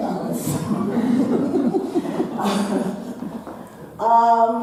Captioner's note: audience laughing